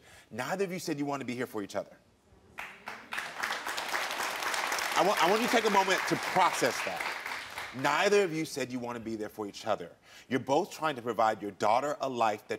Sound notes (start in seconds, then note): 2.5 audience clapping